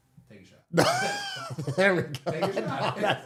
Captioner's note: laughing